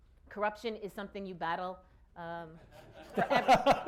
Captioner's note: laughter